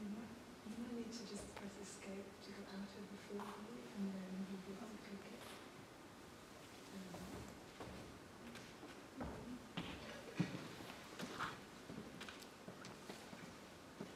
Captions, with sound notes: Okay, you might need to just press Escape to get out of full screen and then just click again. (footsteps plodding)